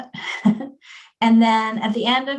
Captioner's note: chuckles